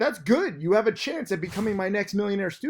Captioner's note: air whooshes